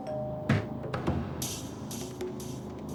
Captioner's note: doorbell rings